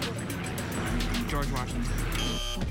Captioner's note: buzzer